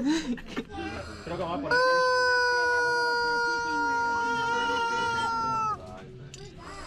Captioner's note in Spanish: Ruido del pollo